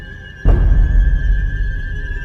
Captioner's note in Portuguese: impacto